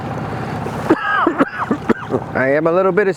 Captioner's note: coughing